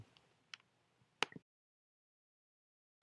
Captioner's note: clicking noise